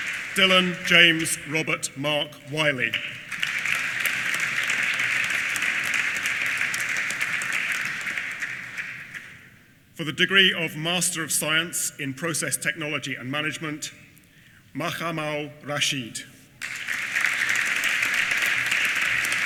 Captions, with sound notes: Dylan James Robert Mark Wilkie, (APPLAUSE) For the degree of Master of Science in Process Technology and Management, Muhammad Rashid. (APPLAUSE)